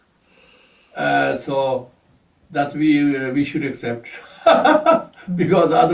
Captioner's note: laughs